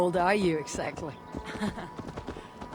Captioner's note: laughs